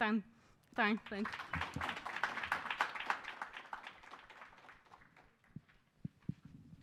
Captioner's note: applause